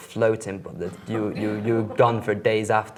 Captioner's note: laughs